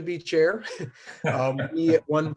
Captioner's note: laughs